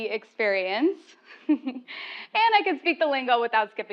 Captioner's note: laugh